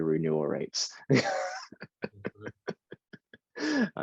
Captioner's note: laughing